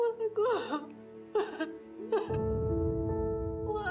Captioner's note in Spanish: sollozos